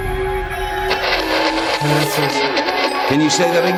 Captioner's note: static crackling